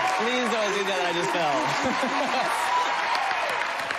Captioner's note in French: laughing